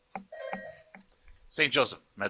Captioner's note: buzzer buzzing